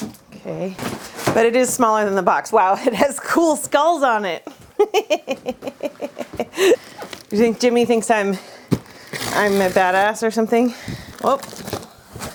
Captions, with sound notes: Okay, But it is smaller than the box. Wow. It has cool skulls on it! [laughing] You think Jimmy thinks I'm.... I'm a badass or something?